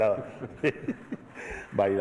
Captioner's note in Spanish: risas